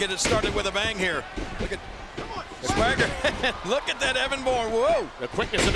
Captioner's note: laugh